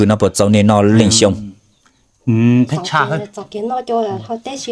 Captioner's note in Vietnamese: hắng giọng